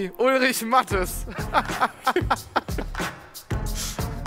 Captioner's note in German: lachen